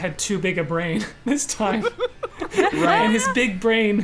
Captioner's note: players laughing